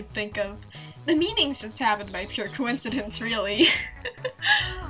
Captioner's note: laughs